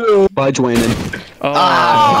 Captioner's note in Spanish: disparo